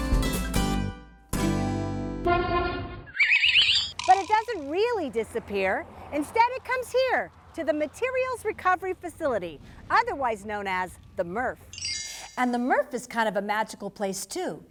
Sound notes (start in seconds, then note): 2.2 truck horn!; 3.1 whistle